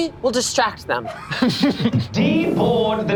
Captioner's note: group laughs